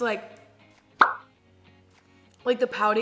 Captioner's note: bubble pops